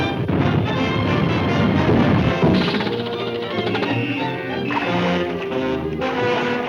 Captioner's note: triumphant music; cars sputtering